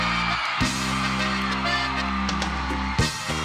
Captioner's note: fans cheering